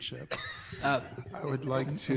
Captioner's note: people laughing